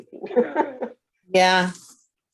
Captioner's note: laughing